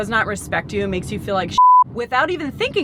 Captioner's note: beep